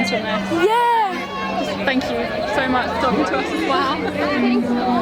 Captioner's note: chokes up